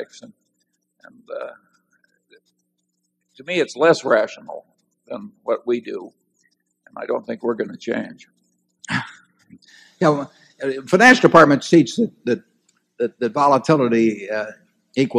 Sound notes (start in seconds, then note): 8.9 Buffett laughs